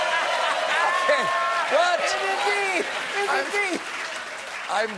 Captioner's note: cheering